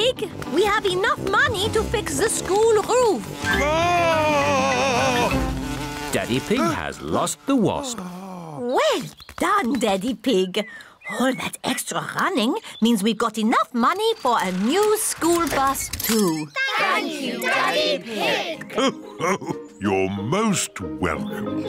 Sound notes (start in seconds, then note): 3.4 screams